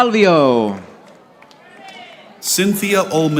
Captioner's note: audience applauding